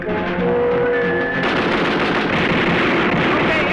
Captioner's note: gunfire